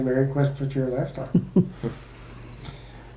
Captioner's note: chuckles